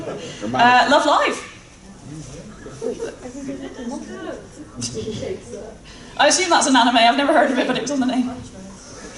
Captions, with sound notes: Love Live! [Audience muttering about Everyday Life with Monstergirls] I assume that's an anime, I've never heard of it, but that was the name.